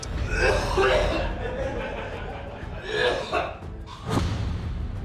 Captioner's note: vomiting sounds